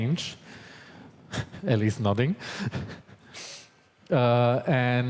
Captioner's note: chuckles